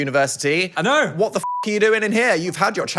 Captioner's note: beep